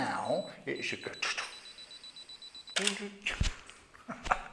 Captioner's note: beep beep beep click